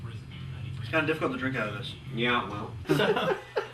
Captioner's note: radio DJ speaking; laughter